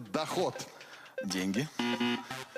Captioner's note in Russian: пи-пи